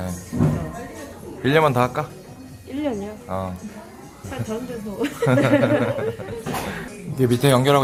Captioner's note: laughs